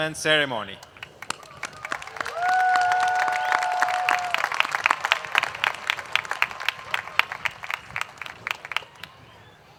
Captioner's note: applause